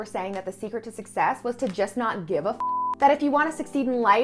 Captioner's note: beep